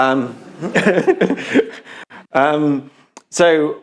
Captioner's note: laughs